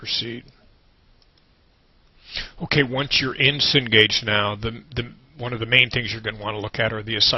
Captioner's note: pause with a mouse click